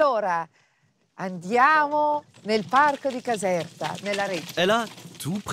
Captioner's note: speaks in Italian